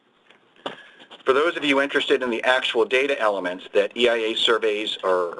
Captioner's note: pages turning